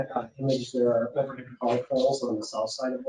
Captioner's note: speaking faintly